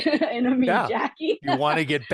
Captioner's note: laugh